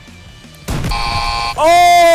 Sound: buzzer

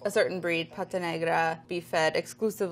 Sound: speaking in foreign language

